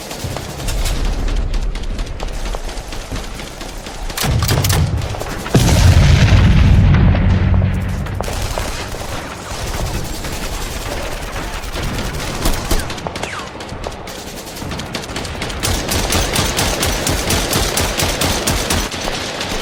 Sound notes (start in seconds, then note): 0.6 gun clicks; 4.0 gun blasts; 5.5 explosion booms; 8.2 guns blasting